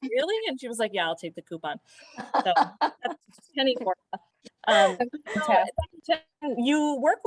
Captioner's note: laughter